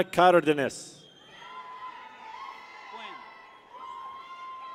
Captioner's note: people cheer